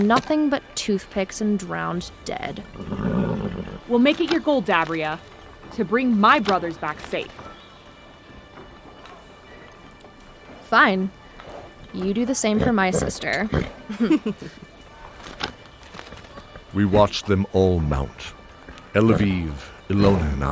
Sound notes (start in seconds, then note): 13.8 chuckle